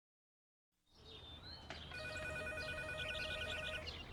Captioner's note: telephone ringing